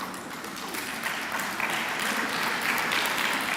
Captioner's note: clapping